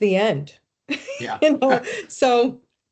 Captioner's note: laughing